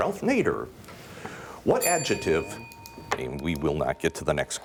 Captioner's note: bell dinging